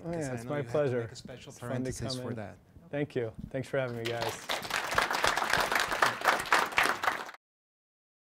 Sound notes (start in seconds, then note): 1.3 voiceover; 5.8 applause